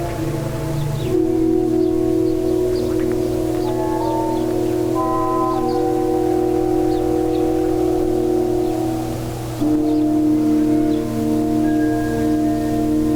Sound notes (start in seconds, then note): 3.8 wind howling; 5.7 birds chirping; 9.7 dramatic music